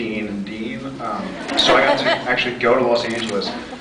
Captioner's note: scattered laughs